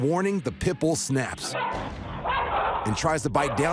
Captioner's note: dogs barking